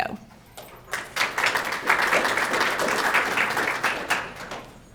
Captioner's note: crowd clapping